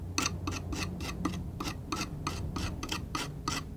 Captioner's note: scratching